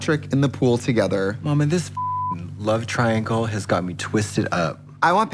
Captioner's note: beep